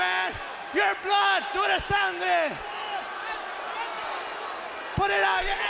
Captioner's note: speaking foreign language